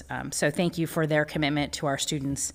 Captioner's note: none